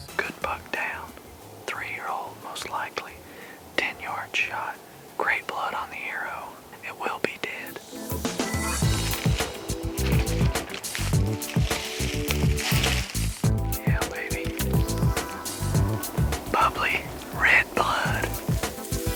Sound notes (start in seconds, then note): 5.6 whispering; 8.1 whispering